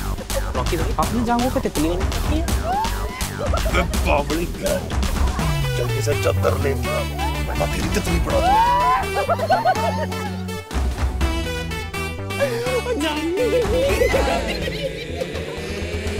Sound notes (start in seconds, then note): 9.2 Laughing